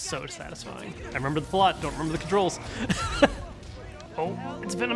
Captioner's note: laughs